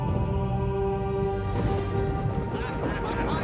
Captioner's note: thunder rumbling; laughing